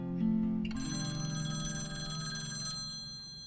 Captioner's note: phone rings